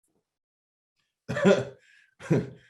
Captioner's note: laughter